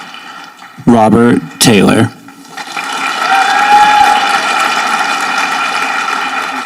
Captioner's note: audience applauding